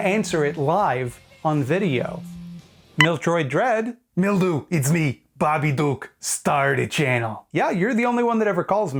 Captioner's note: cell phone beeps